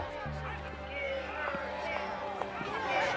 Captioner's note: protesters chanting